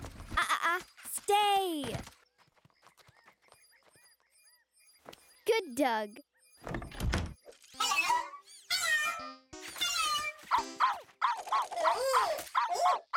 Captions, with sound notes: Ah, ah. Staaaaay. Good dog. [door shuts] -Hello! -Hello! Hello! -[Lulu barking] -[terrified]Oooh!